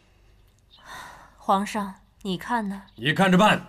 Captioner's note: sigh